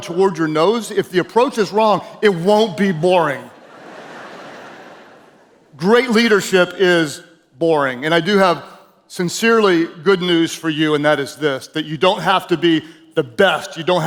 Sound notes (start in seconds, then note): 3.4 audience laughing